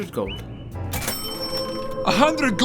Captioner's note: ka-ching!